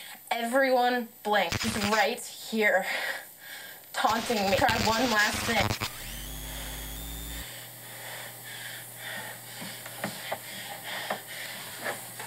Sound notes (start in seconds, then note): 7.8 heavy breathing